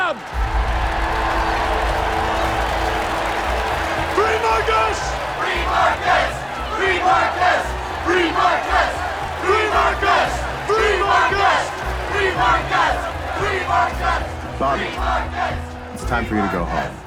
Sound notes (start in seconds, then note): 0.1 crowd cheering; 5.2 crowd